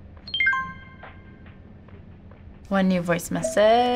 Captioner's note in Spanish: teléfono campanillas